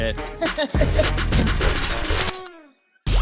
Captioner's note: laughing